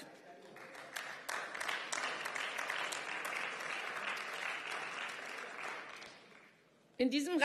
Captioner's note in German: Beifall